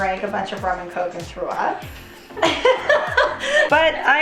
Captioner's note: laughing